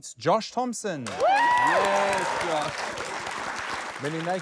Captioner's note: cheering, applause